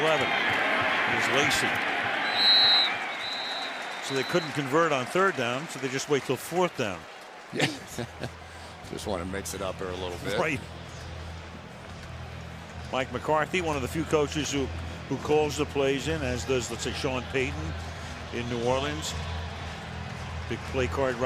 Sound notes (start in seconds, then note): 2.2 whistle blows; 7.5 chuckles